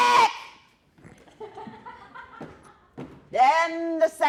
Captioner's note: laughter